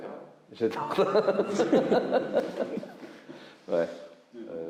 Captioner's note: laughs